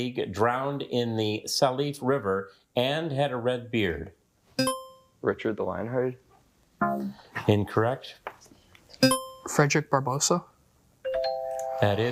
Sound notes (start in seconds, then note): 4.6 buzzer dings; 9.0 buzzer beeps